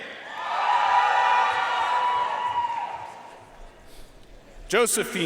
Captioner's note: audience cheering and applauding